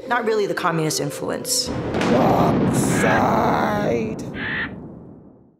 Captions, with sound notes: Not really the Communist influence. - (thunderclaps) Dark side! (crow caws)